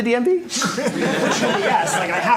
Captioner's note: laughter